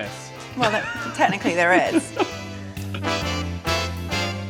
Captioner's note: laughs; bright music